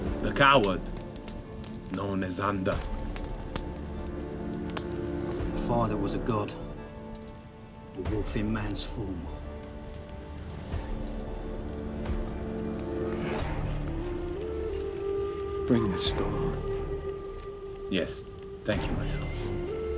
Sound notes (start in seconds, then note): 3.5 fire crackling; 4.8 gentle music; 10.7 gentle music; 12.9 fire crackling